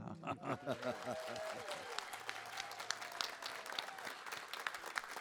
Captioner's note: audience cheers